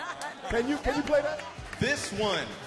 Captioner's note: all laugh